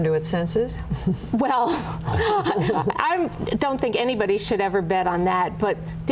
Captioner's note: laughter